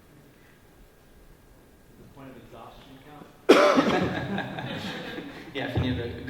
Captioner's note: laughs